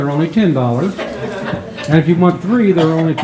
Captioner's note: members chuckles